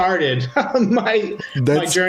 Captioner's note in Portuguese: risadas